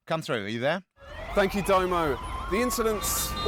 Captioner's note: sirens wailing